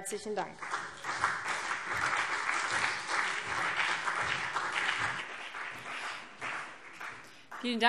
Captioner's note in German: Beifall CDU und BÜNDNIS 90/DIE GRÜNEN